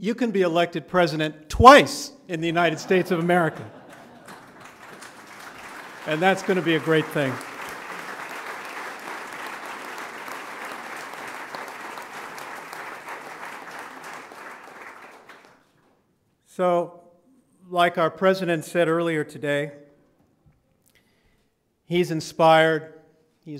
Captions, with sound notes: you can be elected president twice in the United States of America. [LAUGHTER] And that's going to be a great thing. [APPLAUSE] So like our president said earlier today, he's inspired.